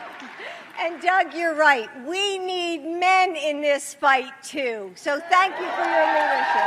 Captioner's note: applause